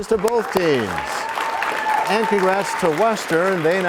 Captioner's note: applause